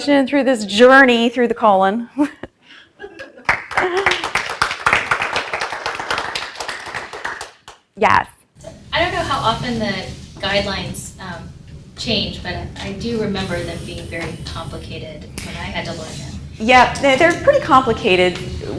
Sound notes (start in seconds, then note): 3.0 chuckles; 3.4 audience applauds